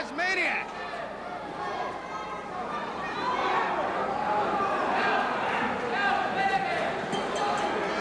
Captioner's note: crowd chatter